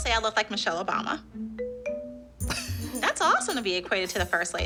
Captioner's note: laughs